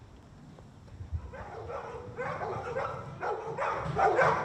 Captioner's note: dogs barking